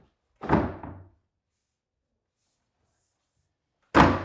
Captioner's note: board thudding